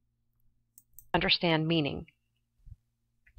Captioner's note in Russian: Звучат фразы на английском